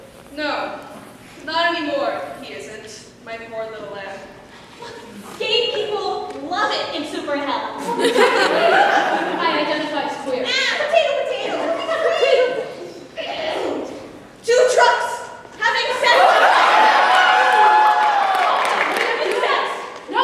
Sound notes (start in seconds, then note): 12.9 clears throat